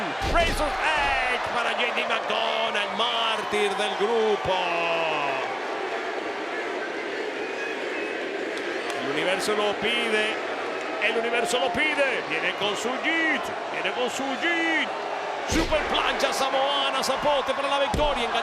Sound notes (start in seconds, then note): 8.2 applause